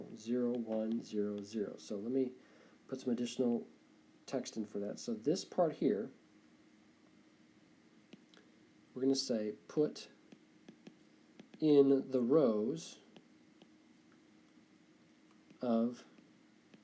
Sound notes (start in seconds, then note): 11.4 tapping